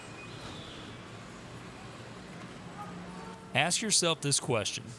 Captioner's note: cars honking